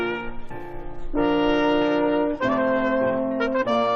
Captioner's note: none